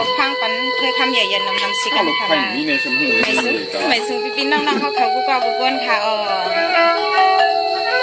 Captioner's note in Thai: เสียงหัวเราะ